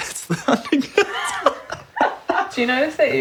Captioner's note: laughing